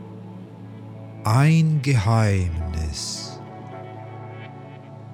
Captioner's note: german